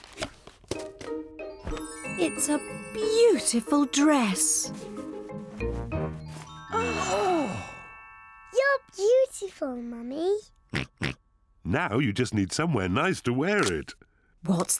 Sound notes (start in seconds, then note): 6.8 all gasp; 10.7 oinks